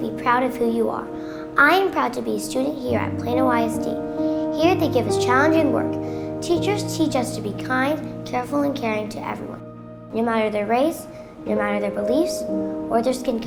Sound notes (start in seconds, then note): none